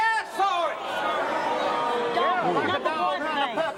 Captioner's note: audience booing